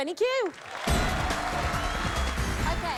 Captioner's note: cheers and applause